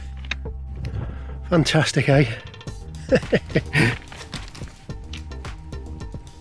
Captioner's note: laughs